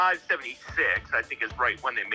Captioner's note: on phone